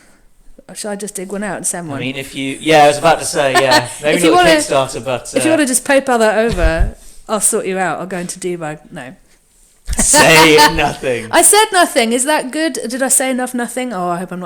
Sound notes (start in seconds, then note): 10.0 laughs